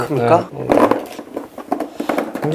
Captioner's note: clattering down